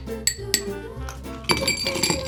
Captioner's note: upbeat music; spoon clinks; ice clinks